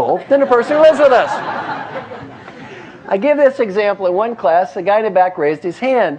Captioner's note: laugh